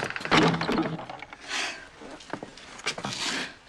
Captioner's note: sighs deeply